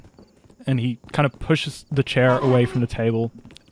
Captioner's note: chair squeaks